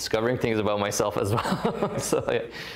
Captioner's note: laughter